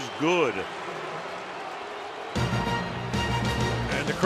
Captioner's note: crowd booing